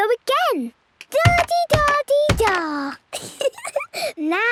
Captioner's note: thudding; giggles